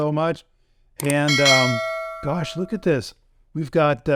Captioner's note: bell dings